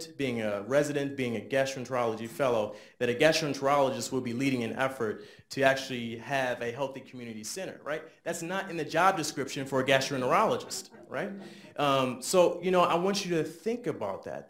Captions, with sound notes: being a resident, being a gastroenterology fellow, that a gastroenterologist would be leading an effort to actually have a healthy community center. That's not in the job description for a gastroenterologist. (audience laughs lightly) So I want you to think about that.